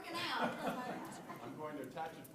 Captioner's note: laughter